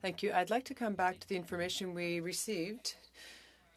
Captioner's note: speaking French